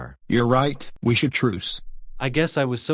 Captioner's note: none